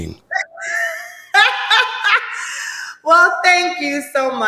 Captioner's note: Sanya laughing